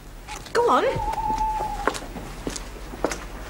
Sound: owl hoots

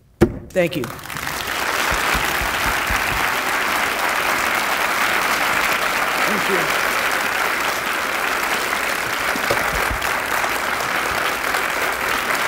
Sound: audience Applause

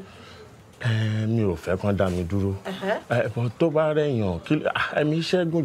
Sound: speaking foreign language

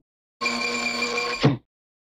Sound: laser noises

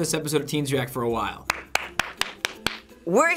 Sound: fervent clapping

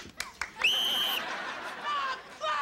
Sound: all applauding; whistle blowing

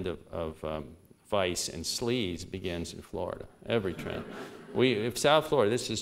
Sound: laughter

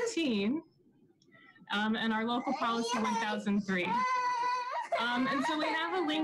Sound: baby cries

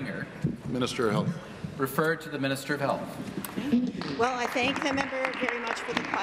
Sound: applause

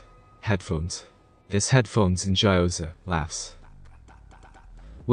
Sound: laughs

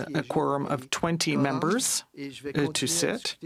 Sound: speaking French

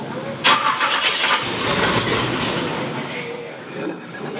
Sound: engine starts

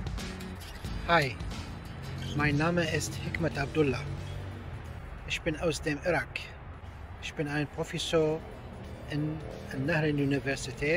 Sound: German

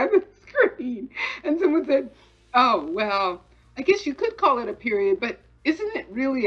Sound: laughing

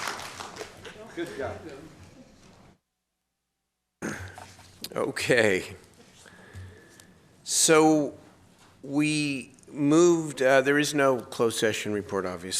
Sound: applause

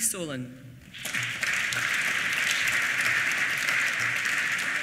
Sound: applause

